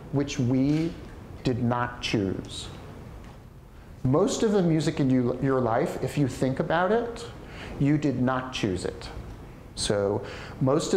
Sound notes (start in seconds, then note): none